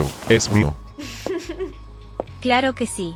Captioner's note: Agent.G's giggles